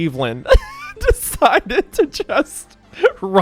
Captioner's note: laughs